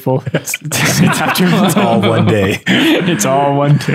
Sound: laughter

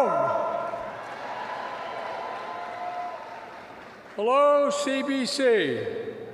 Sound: applause

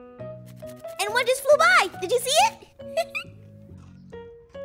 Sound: laughs

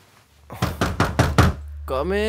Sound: knock on the door

